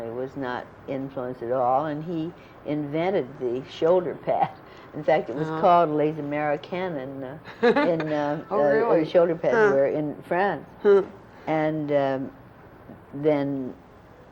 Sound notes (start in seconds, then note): 7.4 laughter